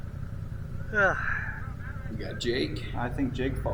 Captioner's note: groaning